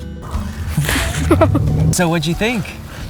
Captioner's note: laughing